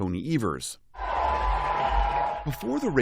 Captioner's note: cheering